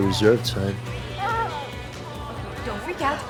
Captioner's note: gasps